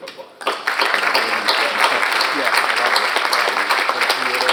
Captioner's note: all applauding